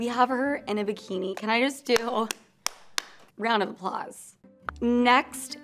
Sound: clapping

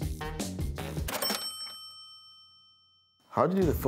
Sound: cash register dings

